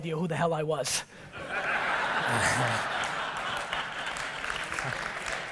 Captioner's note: audience laughter